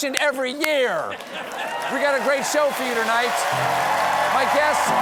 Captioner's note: cheers and applause